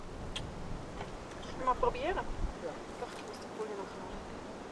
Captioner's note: in Swiss German